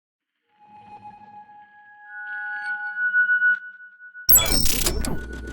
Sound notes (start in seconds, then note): 0.9 high pitched chime plays